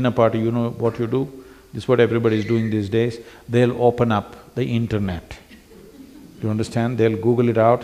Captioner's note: few laugh